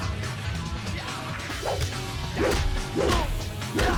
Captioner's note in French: homme de main criant